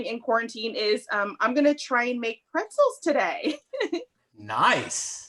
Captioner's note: chuckling